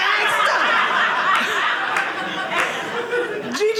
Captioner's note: audience laughing